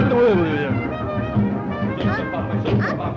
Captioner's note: villager speaking foreign language; Betty whimpering